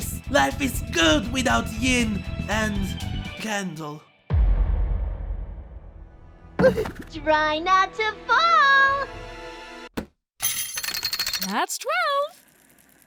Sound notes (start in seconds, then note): 4.3 dramatic boom; 6.5 wobbily yelp